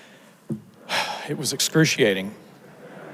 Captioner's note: sighs; audience laughs